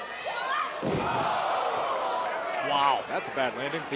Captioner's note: crowd cheering